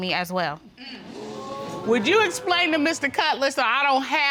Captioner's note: audience exclaiming